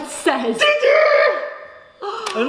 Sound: shocked gasps

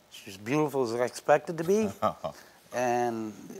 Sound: Karamo laughs

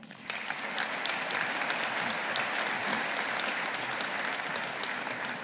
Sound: audience applauding

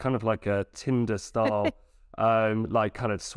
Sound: laughs

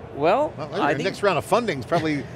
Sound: laughs

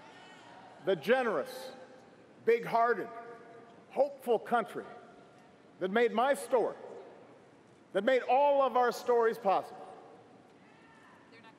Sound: cheers & applause

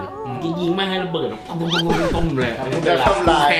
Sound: chuckles

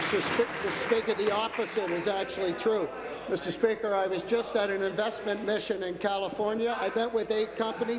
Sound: applause

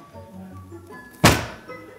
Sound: paper thuds

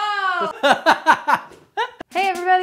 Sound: laughing

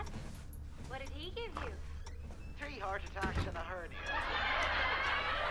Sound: sitcom playing on TV

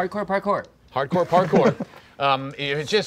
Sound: laughing

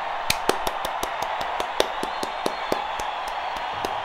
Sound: audience cheers; claps

